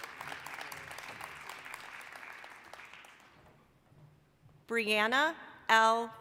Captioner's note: applause